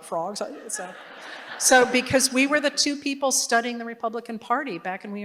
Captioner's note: laughter